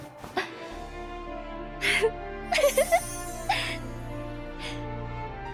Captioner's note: laughs